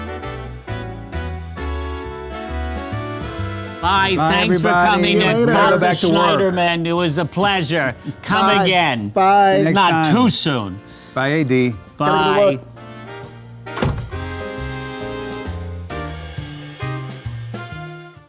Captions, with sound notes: - Bye, thanks for coming. - Bye, everybody. - See you later. - That's a Schneiderman. It was a pleasure. Come again. - Bye, bye. - See you next time. - Not too soon. - Bye, "AD." - Bye. - Gotta go to work. [door clicks] [relaxing music]